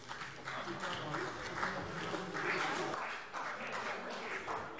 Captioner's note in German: Vereinzelter Beifall CDU